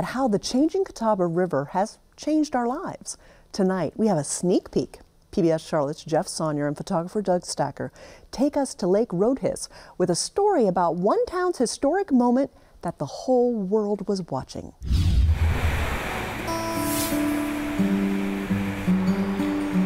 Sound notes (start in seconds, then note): 14.8 whoosh; 15.6 guitar strumming